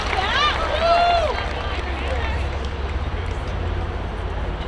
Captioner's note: student cheers